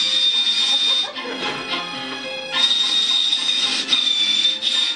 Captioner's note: audience giggling